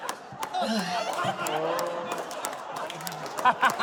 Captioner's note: sighs; laughter